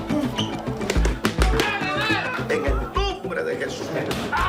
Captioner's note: all chattering in Spanish